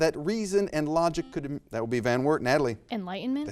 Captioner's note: buzzer buzzes